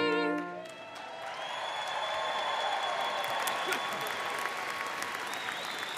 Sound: audience cheering and applauding

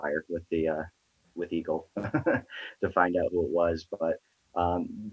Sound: laughs

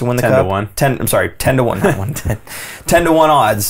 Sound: laughs

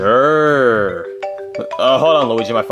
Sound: phone ringing

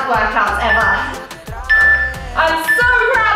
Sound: timer beeping; instructor exhales

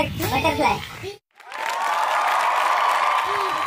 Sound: cheers

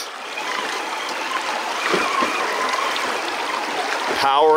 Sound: tires squealing

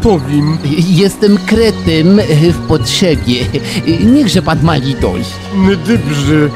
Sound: pidgin french accent

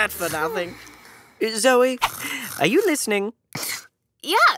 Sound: snore

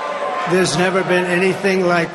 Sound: applause

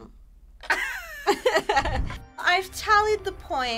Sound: chuckles

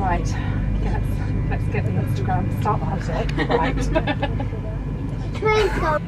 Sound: laughs

